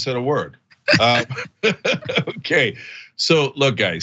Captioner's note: laugh